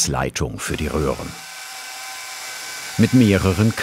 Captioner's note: drilling noises